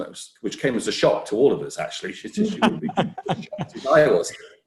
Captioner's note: laughing